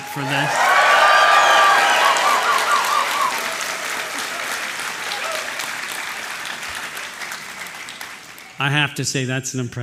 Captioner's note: applause